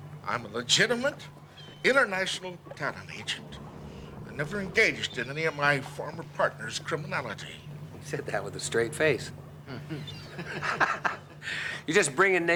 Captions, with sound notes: I'm a legitimate international talent agent. I never engaged in any of my former partner's criminality. He said that with a straight face. (chuckles) (laughs)